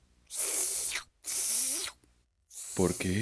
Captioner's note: slurping